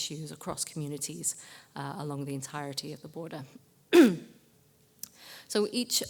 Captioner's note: cough